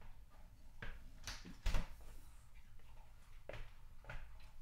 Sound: fridge door closing

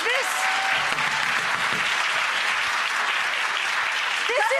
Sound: audience applause

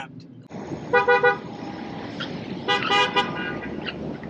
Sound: car horn beeps

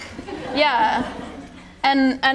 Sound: attendees laughing

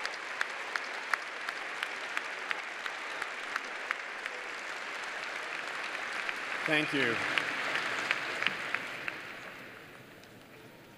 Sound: applause

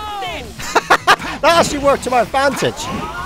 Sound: laughter

